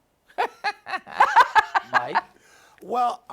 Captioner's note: laugh